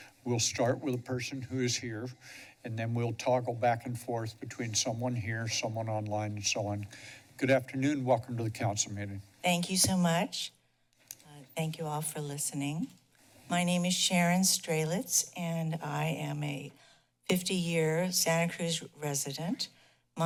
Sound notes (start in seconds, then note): 10.5 pause